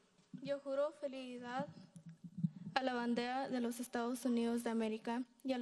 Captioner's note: speaking in foreign language